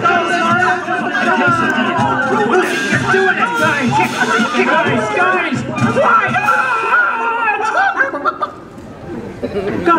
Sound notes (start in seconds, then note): 7.5 audience laughter; 8.0 chickens clucking